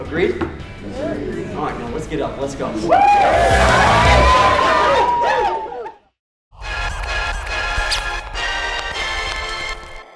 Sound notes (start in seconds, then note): 2.8 cheering; 6.7 upbeat music